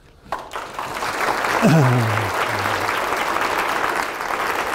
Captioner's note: audience claps